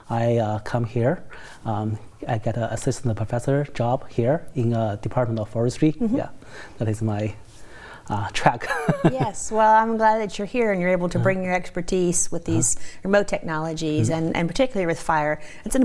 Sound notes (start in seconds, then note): 8.6 laughs